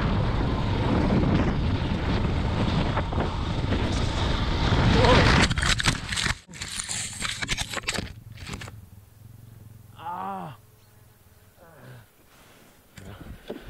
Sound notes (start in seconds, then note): 5.4 muffled crashing; 9.9 groan